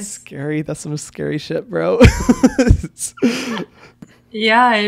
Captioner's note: laughs